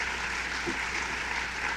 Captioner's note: applause